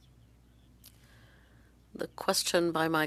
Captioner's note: speaking French